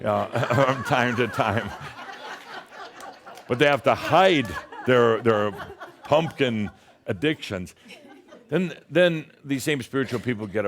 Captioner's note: laughter